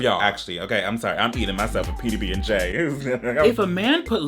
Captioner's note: stammers